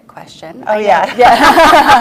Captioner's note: laughs